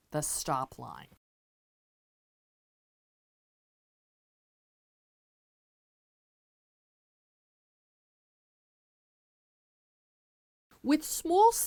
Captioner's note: no Sound Present